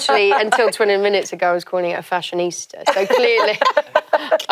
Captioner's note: laugh